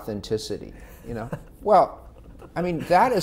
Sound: laughing

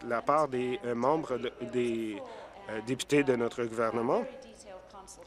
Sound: applause

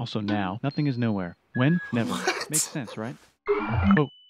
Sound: snickering

